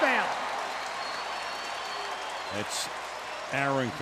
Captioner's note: cheering